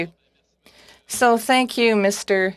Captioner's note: speaking French